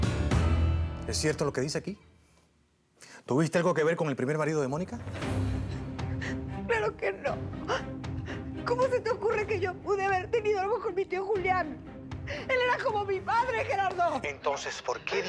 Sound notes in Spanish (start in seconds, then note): 8.3 sollozos